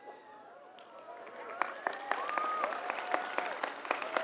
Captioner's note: applause